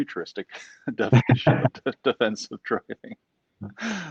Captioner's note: laughing gently